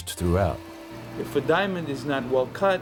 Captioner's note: factory machine buzzing